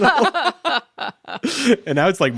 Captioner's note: all laughing